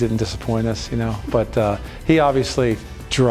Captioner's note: chuckling